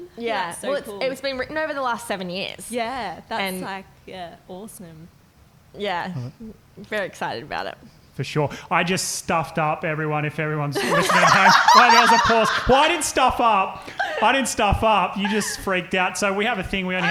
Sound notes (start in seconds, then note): 12.4 laughing